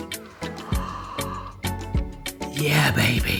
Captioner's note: upbeat music; gasps